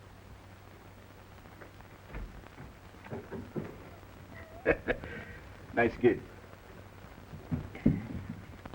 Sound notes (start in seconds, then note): 4.3 Pepe laughs